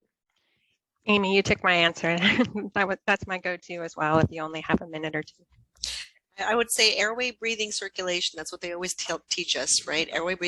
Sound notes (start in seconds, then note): 2.2 laughs